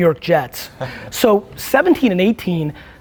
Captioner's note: group laughs